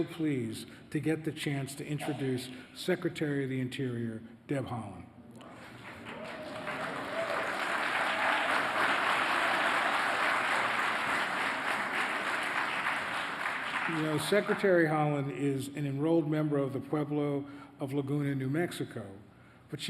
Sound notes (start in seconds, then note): 13.8 applause